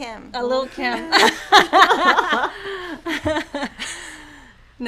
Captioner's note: laughing